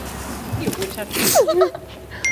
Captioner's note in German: Aufgeregtes Kichern; Nachrichtenton